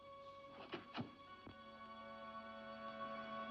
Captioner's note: jimmying door; ominous music